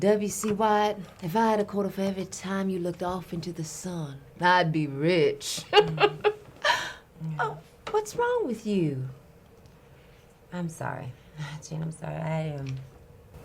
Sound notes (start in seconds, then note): 5.7 laughs